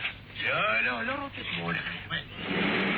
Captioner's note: speaks Hebrew